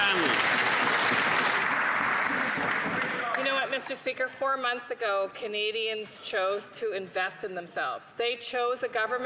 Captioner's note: some Applause